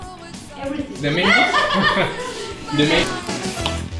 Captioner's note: laughs